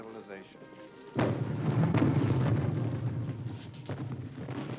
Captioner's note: bomb rumbling